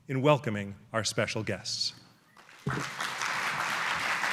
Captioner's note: applause